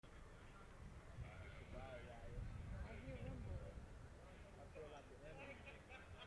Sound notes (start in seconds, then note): 1.6 people speaking in background